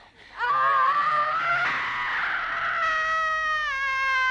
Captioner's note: Hundra screaming